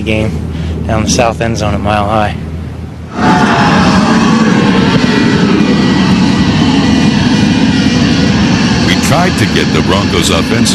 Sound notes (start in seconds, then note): 2.4 loud cheering